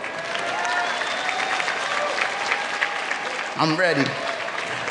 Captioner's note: clapping